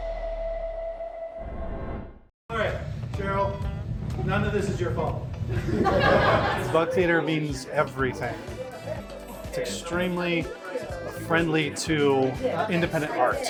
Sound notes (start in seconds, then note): 5.4 crowd laughter